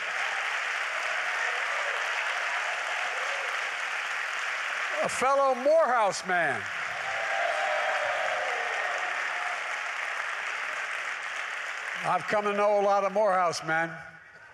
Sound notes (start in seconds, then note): 0.2 applause; 9.9 applause